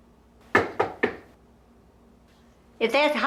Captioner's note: door slamming; knock on door